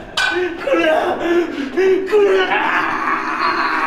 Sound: gasp, gasp; zombie groan

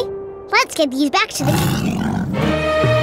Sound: growling

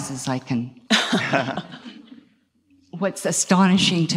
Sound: all laugh

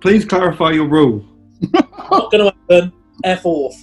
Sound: snigering

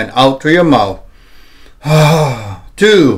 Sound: inhale and exhales

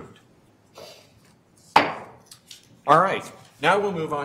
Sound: gavel knocks

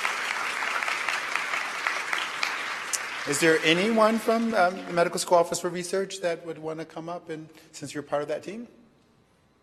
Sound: applause

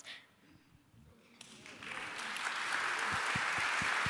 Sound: applause

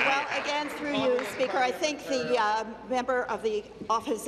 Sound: applause

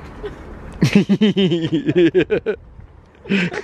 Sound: giggles

